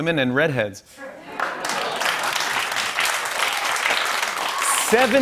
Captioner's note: laughter and applause